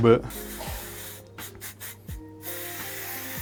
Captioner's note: spraying